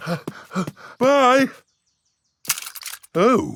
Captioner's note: panting